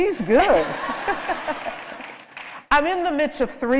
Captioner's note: laughter